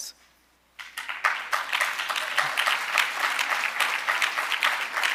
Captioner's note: audience applauding